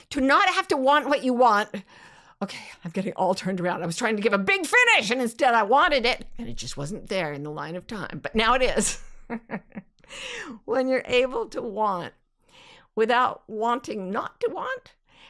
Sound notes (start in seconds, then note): 9.9 laughs